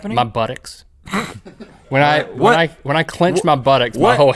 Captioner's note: snorts